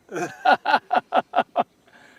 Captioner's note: laughter